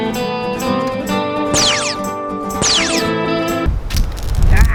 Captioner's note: western Country Music; laser Sounds